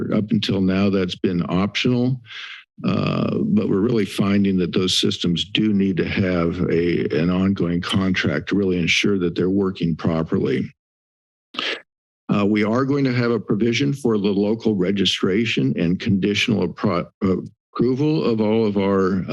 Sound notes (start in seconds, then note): 10.5 silence; 11.5 inhales